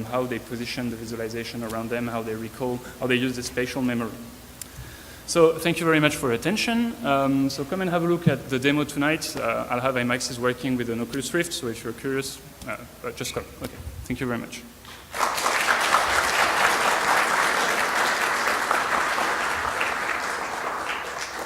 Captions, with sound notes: how they position the visualization around them, how they recall, how they use the spatial memory. So thank you very much for attention, so come and have a look at the demo tonight, I'll have ImAxes working with an Oculus Rift, so if you're curious, just come. Okay, thank you very much. (clapping)